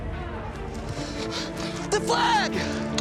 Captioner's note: gasps